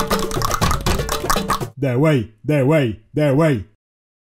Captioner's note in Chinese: 彈舌